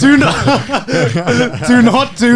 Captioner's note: laughing